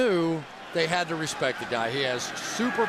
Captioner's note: cheering